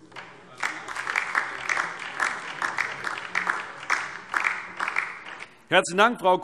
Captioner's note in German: Beifall DIE LINKE